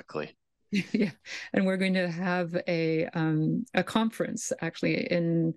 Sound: laughs

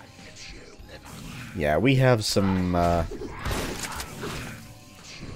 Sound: shotgun blasting

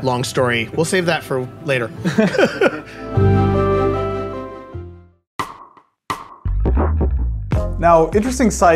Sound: laughter

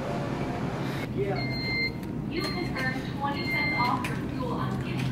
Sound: Scooter beeping

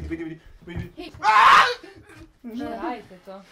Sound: screams

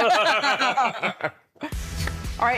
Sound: laughing

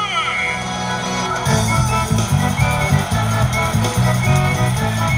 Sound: crowd cheering

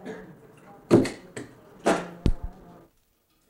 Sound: stamper thump

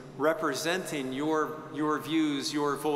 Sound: none

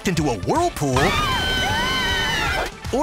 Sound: all screaming

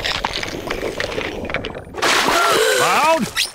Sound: gasping

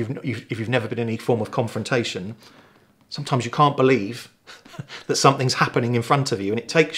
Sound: laughing

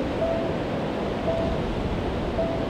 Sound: none

